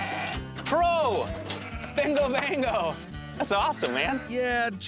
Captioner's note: high-five clap